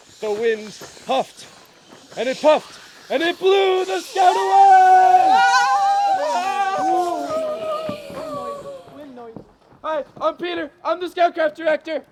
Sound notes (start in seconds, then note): 5.3 cheering